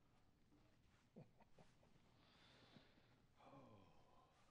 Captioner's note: Michael chuckling